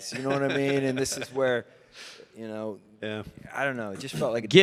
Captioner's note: Mike laughs